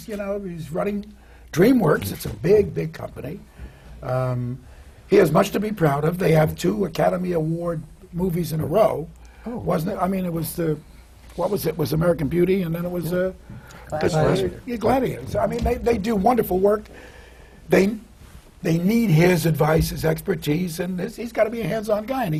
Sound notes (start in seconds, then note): none